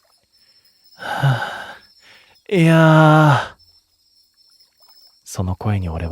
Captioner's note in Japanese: ため息